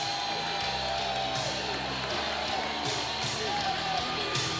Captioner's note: crowd cheers